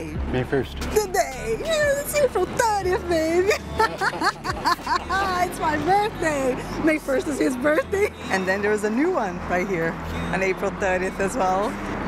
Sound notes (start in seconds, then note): 2.3 laughs